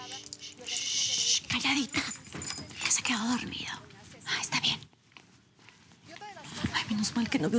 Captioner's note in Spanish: En voz baja